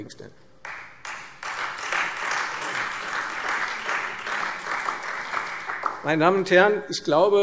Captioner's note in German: Beifall Freie Demokraten und vereinzelt SPD